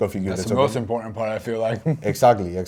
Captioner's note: laughs